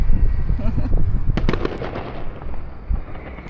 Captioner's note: welcome gunshot